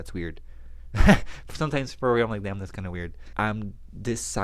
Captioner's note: laughs